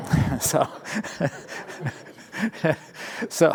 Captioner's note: laughter